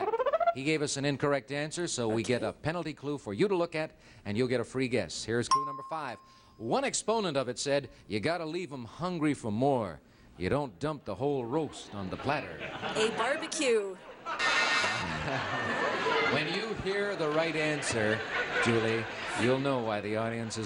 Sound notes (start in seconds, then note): 14.2 buzzer beeps